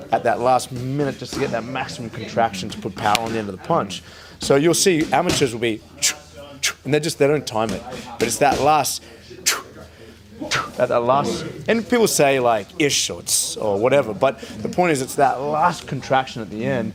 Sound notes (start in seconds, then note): 6.1 fast exhales; 9.1 fast exhales